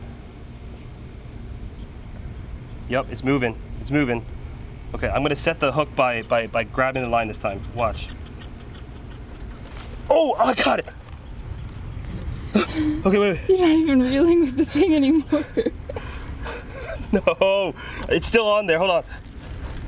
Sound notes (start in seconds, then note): 16.2 laughing